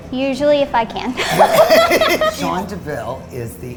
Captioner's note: laughing